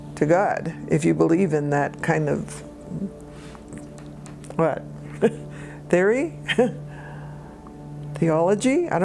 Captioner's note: chuckles